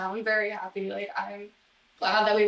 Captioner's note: none